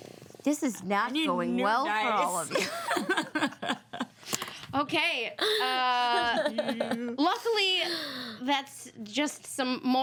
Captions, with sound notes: - This is not going well for all of you. (women laugh) - Okay, luckily that's just some more tension.